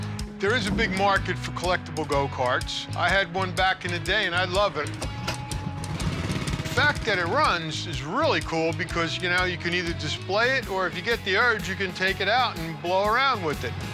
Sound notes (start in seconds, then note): 4.8 engine turns over